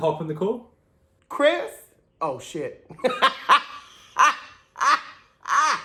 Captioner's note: cackles